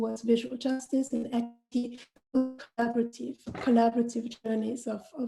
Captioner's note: distorted audio